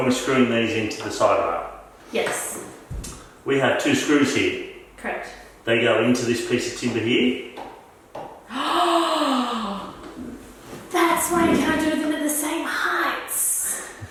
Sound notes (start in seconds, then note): 8.5 gasps